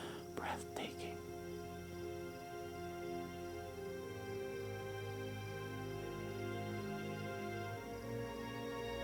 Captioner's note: none